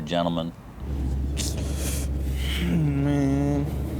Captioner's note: sighs heavily